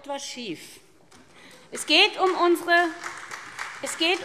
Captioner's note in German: Beifall SPD